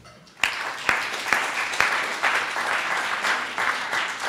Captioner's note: audience applauding